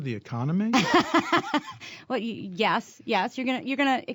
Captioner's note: laughter